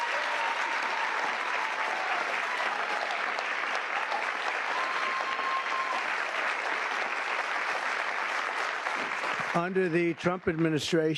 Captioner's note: cheers and applause